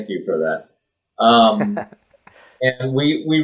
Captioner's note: laughs